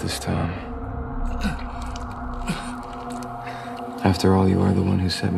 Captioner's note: Neo gasping